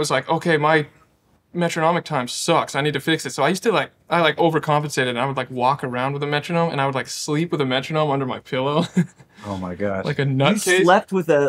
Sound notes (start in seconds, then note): 8.8 laughing